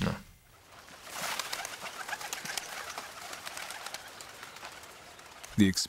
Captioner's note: birds chirping